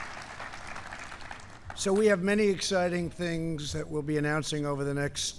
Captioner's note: applause